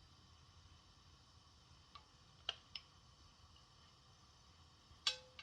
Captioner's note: griddle sizzling